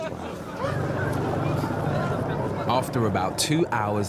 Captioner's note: man laughing; helicopter whirring